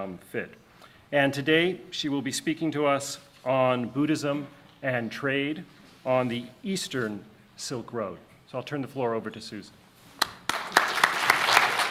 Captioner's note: audience applauding